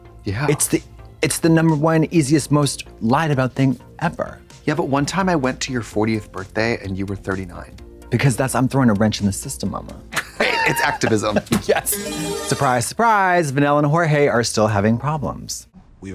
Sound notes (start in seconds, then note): 11.8 bright chime